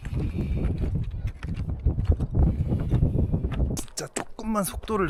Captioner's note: taking a breath in between